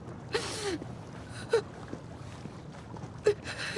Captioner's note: crying